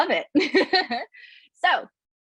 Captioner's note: laughs